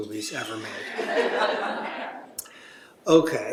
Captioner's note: laughter